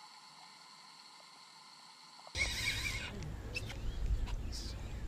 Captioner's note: reel screeching